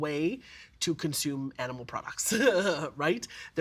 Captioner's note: laughing